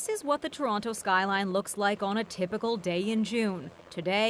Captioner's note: whirring of helicopter